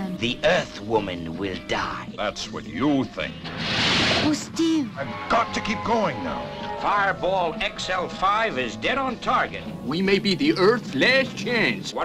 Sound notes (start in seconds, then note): 3.5 gun banging